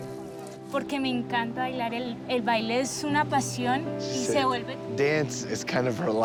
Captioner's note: speaking Spanish